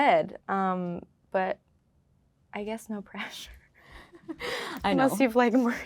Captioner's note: laughing